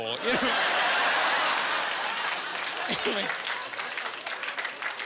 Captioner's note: laughing